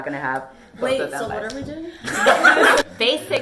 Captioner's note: laughter